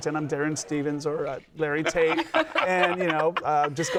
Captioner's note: laughter